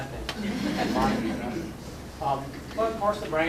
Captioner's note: laughter